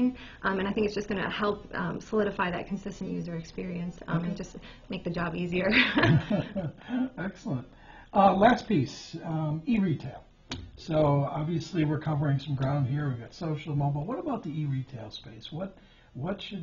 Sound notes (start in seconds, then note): 5.7 laughs